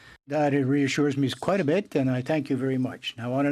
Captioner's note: speaking French